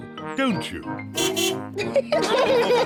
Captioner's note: car horn beeps; all laugh